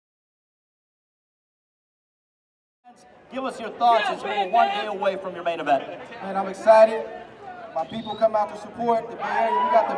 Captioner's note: fans cheering